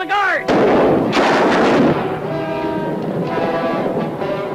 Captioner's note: guns firing